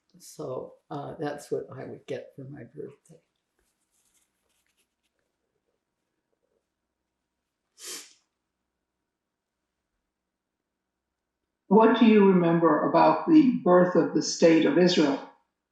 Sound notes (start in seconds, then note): 3.3 pauses 8 seconds; 3.3 sniffling; 3.3 wiping nose